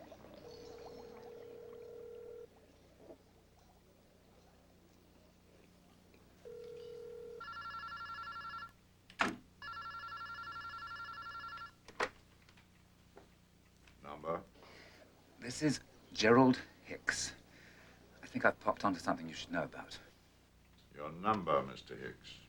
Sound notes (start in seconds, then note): 1.0 telephone rings; 7.3 ring